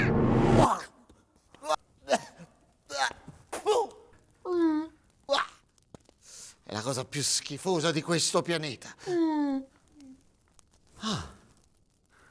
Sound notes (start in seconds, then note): 3.6 coughing and spitting; 9.1 neanderthal whimpers